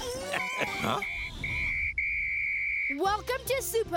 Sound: chuckling; whistle blowing

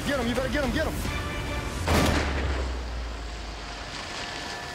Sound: gun shot

